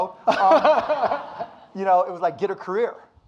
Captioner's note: audience laughing